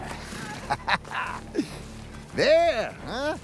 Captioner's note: laughs